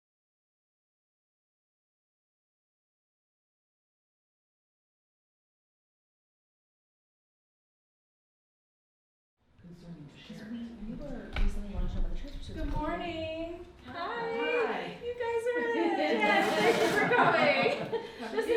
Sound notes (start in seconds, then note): 15.9 laughs; 16.0 audience laughs